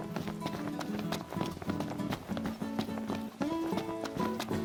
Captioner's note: footsteps thudding